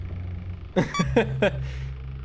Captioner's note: laughs